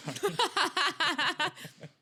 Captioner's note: laughing